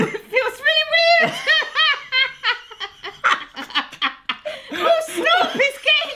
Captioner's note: laughing hysterically